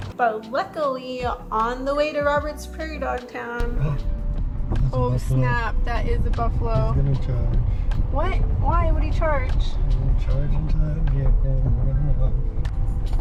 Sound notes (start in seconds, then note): 4.2 gasps